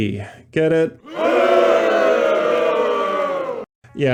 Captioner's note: audience boos